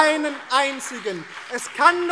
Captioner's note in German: Beifall BÜNDNIS 90/DIE GRÜNEN